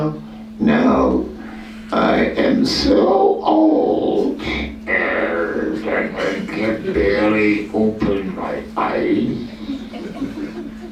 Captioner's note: laughter